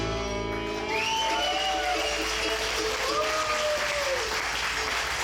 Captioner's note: audience cheering